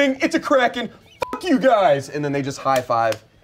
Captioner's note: beep